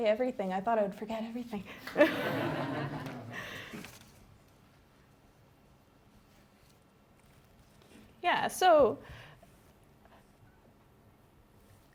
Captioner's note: laughter